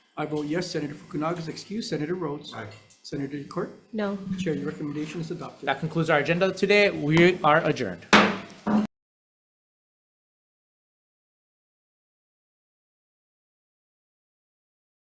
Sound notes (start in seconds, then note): 8.1 gavel thuds